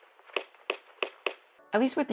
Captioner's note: punch punch punch punch